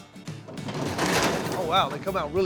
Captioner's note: apples tumbling